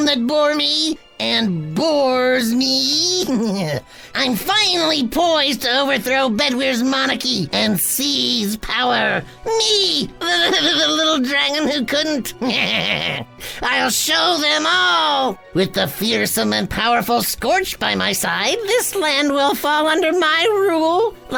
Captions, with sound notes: that bore me and bores me, I'm finally poised to overthrow Bedwyr's monarchy, and seize power. Me, the little dragon who couldn't. (laughs) I'll show them all. With the fearsome and powerful Scorch by my side, this land will fall under my rule